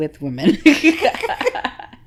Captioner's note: laughs